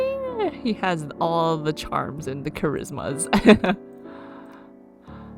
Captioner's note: laughs